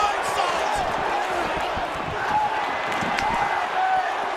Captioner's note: crowd cheers